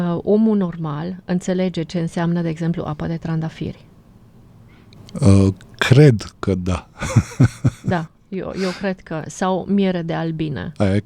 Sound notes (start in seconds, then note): 6.7 laughter